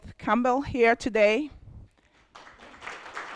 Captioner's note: applause